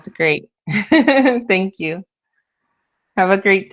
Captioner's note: laughs